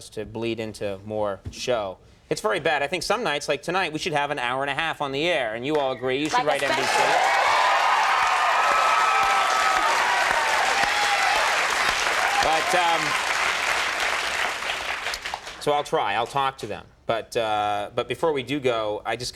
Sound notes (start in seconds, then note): 6.3 audience applauding; 6.3 audience clamoring